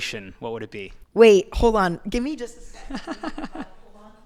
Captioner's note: laughing